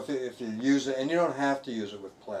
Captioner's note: none